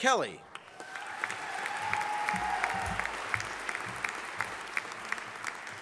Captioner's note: audience applauding